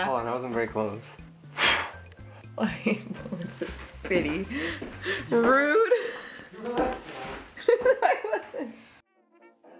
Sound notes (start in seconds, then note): 1.5 exhaling; 2.7 laughing; 7.0 exhaling; 7.6 laughing